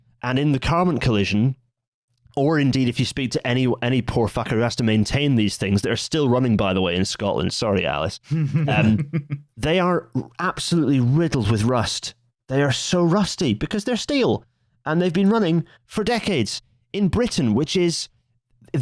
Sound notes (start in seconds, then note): 8.3 chuckles